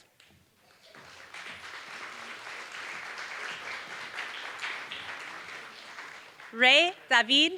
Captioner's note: applause